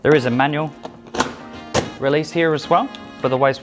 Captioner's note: cap clicks